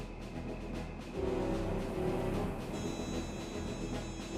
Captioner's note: crickets chirping